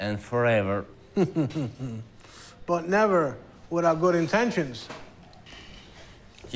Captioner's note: chuckles